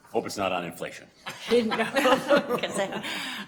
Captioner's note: laughing